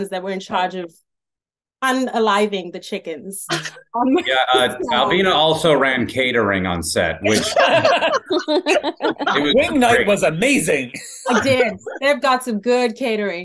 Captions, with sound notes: that were in charge of un-aliving the chickens. - Yeah, Alvina also ran catering on set which... (panel laughs) - Wing night was amazing. - I did. They've got some good catering.